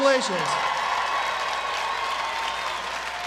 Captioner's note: applause